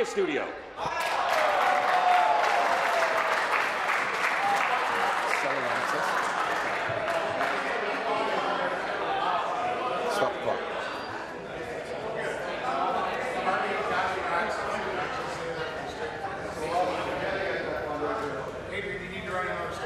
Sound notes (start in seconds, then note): 5.5 applause